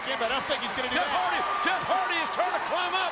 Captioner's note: audience cheering